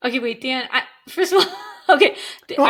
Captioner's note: chuckling